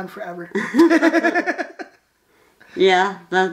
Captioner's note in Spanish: ambos se ríen